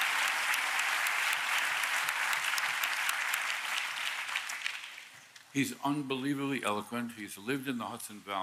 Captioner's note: applause